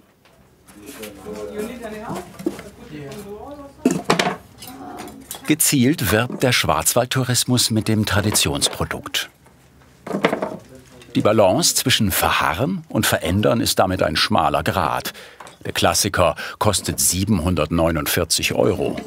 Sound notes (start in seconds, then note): 1.3 conversation in the background